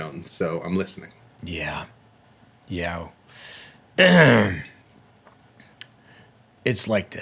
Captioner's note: clears throat